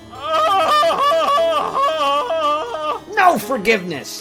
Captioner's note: Gabe screaming